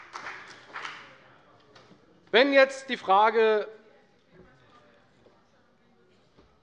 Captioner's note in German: Beifall bei der FDP